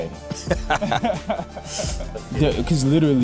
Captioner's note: men laugh